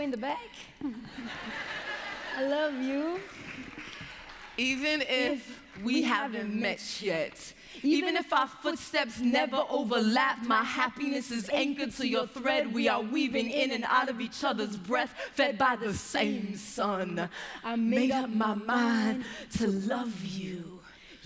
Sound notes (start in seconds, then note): 0.7 laughter